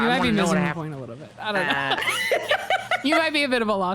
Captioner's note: both laugh